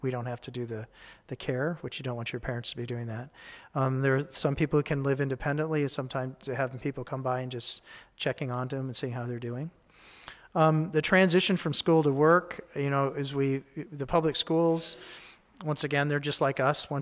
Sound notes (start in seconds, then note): none